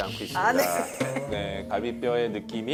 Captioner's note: laughing